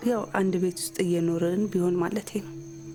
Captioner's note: none